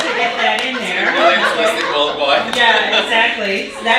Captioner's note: audience laughing